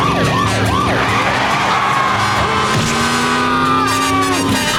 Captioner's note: sirens blaring; screaming